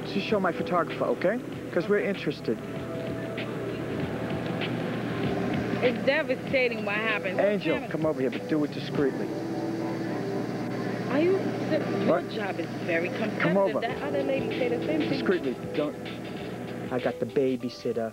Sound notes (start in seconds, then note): 13.3 on phone